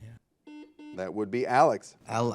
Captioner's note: buzzer